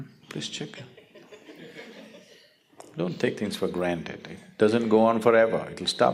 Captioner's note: audience laughter